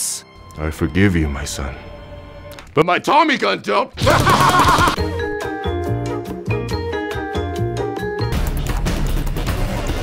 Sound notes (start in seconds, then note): 4.0 maniacal laugh and a gunshot